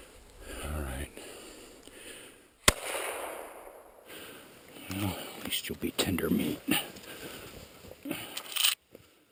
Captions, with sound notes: Alright. (gunshot) Well, at least you will be tender meat.